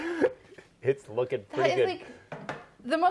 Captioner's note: laughter